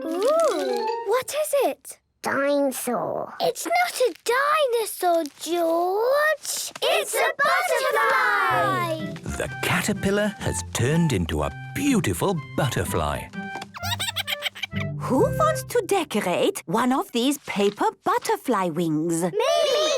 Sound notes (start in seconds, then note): 13.8 giggles